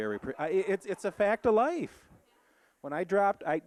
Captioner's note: audience laughing